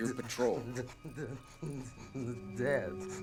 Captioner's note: shuddering